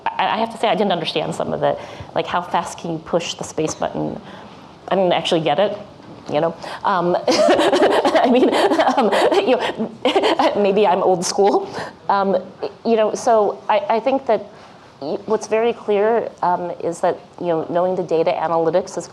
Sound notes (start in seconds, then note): 7.3 laughs